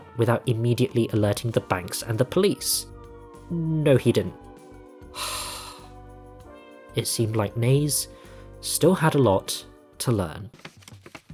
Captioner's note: sigh